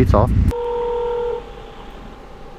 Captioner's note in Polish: dzwoni